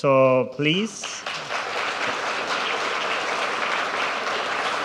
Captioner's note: audience applauds